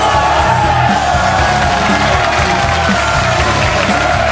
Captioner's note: audience clapping